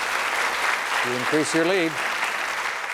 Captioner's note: applause